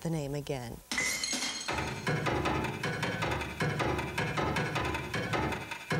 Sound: footsteps and drums

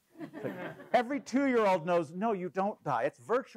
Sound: laugh

